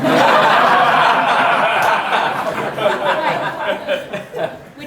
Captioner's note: audience laughing